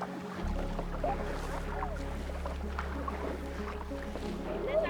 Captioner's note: water sloshing